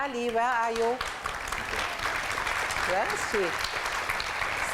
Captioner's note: applause